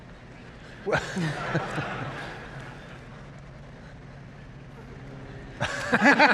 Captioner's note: laughter